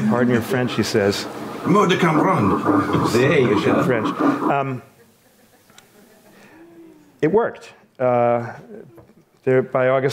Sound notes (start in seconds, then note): 2.6 man speaks foreign language